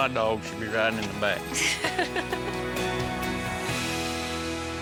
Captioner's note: laughs